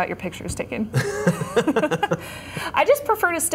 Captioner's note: laughter